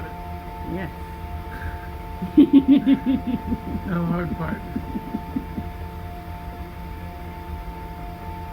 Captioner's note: laughter